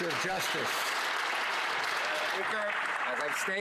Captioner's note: some Applause